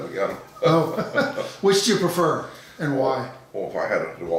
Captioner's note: laughing